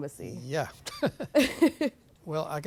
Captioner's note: laughing